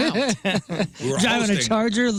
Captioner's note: laughing